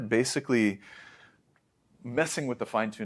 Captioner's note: inhlaes